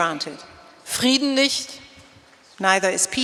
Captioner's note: speaking in German